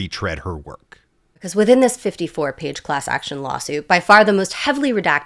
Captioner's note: hoots